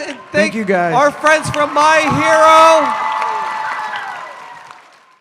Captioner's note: roaring applause fading out